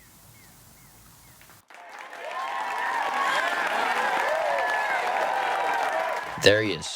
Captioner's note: audience cheering and clapping